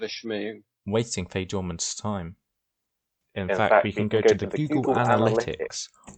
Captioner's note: echoed voiced